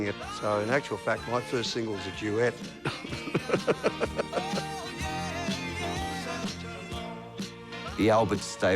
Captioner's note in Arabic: يضحك